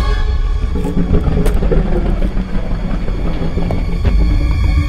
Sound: Scorpius Rex growls

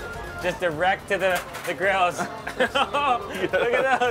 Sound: men laughing

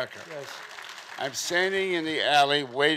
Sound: audience clapping

